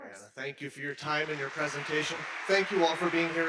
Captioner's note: audience applauding